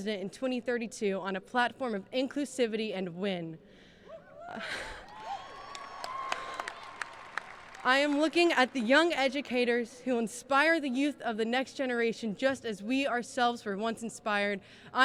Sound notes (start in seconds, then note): 5.0 cheering; 5.1 applauding